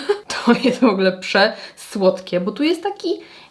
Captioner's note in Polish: śmiech